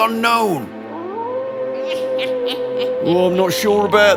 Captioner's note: wolves howl, dog whimpers